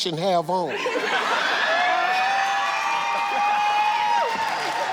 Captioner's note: audience cheers